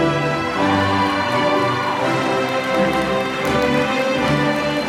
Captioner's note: applause